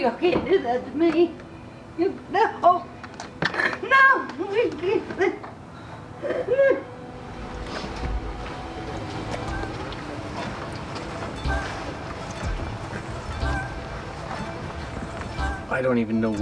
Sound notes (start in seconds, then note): 6.1 cries; 12.7 slow light music